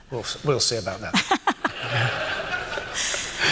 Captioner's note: laughter